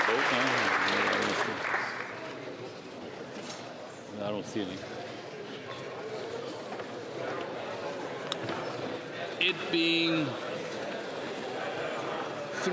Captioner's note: applause